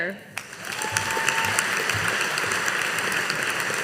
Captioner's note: audience applauding